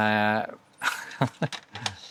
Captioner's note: laughing